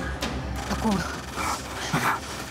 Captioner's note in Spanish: ruido metálico